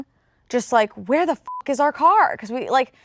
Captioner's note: beep